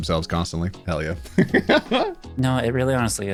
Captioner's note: laughing